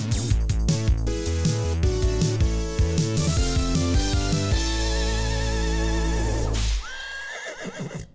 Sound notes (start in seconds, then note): 6.6 whip cracks; 6.8 horse whinnies